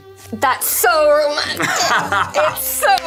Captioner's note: Luke laughing